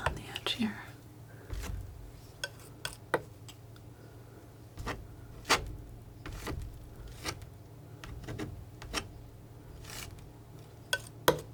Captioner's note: scratching